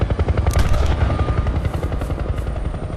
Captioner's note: gunshot; whirring quiets